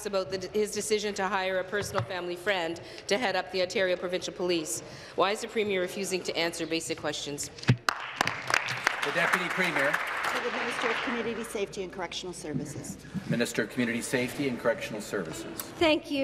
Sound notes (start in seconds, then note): 10.3 applause